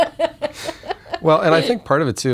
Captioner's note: laughter